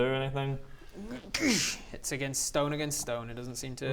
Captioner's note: gsssch